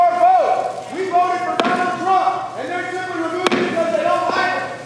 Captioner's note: crowd interruption